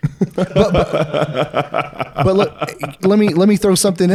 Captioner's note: laughing